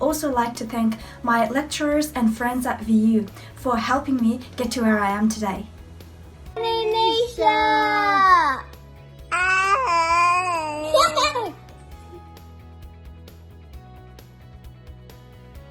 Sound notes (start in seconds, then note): 8.1 kids mumbling; 12.1 soft ambient music